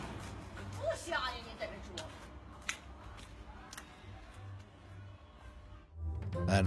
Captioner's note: passerby speaks in foreign language